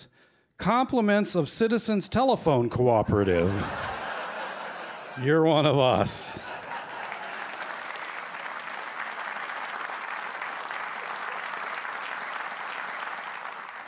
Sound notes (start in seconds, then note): 3.0 laughter; 6.4 applause